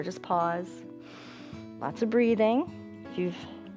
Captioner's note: inhales